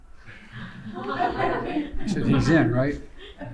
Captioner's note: laughter